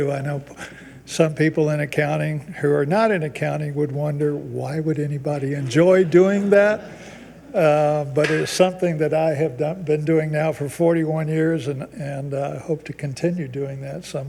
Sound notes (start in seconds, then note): 5.3 people chuckle